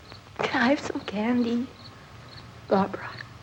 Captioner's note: none